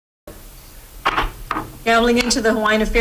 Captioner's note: gavel bangs